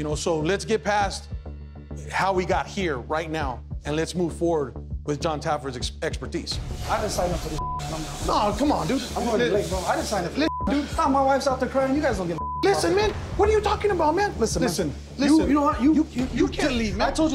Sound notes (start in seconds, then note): 7.5 beep; 12.3 beep